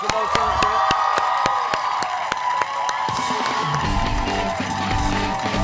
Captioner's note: cheers and applause